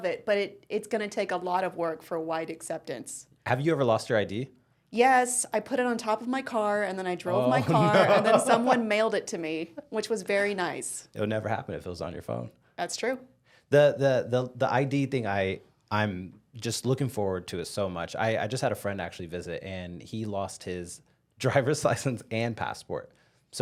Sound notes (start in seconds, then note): 7.4 laughing